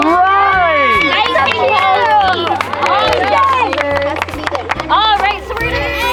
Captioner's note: cheering, clapping